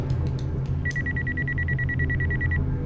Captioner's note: phone ringing